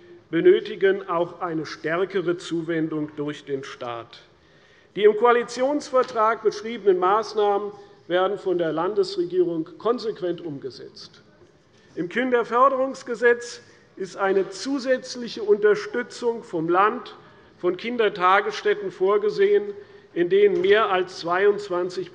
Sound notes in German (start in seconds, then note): none